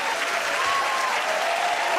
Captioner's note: cheers and applause